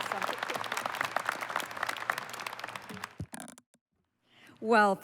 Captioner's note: applause